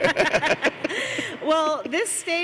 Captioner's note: laughs